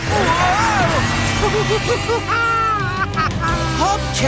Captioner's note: laughing